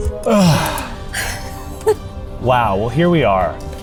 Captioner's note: all sighing